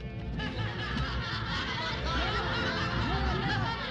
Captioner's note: people laughing